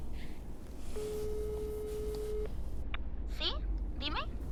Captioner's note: line ringing